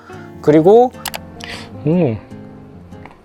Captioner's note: surprised